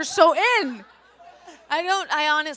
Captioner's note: audience laughs